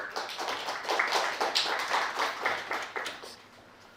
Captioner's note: audience claps